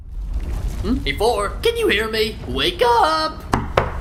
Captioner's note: Profily echo-ing from the sky